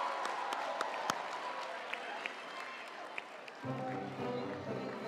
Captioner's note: audience cheering; audience applauding